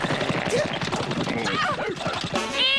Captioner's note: t-bone exclaims